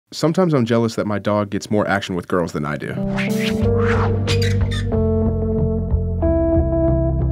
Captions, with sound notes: - [Voiceover] Sometimes I'm jealous that my dog gets more action with girls than I do. (slow music)